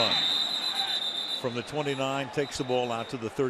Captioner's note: whistle blows